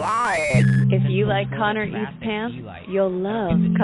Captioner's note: muffled woman's voice